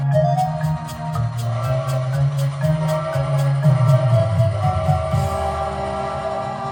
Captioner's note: frantic Whistling